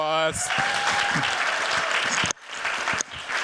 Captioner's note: cheers, applause